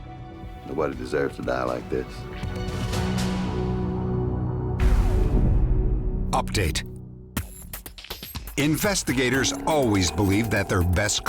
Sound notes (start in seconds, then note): none